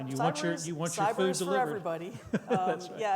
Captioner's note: laughs